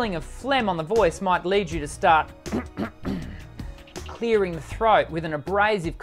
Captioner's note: clears throat